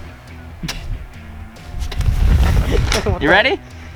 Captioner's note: laughs gleefully